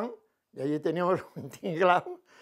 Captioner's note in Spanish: ríe